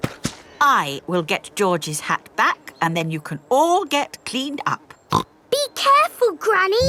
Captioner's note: snorts